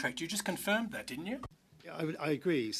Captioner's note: speaking French